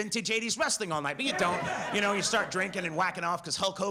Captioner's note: audience laughs